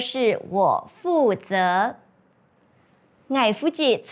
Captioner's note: Chinese